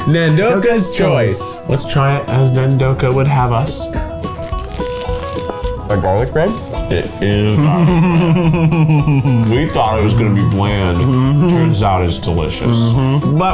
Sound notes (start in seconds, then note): 4.5 upbeat music; 6.7 laughs